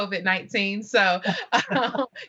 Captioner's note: crowd laughing